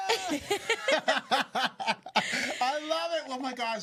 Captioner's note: both laughing